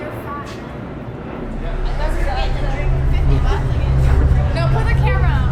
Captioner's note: conversation in the back